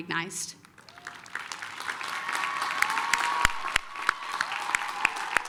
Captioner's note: applause, cheering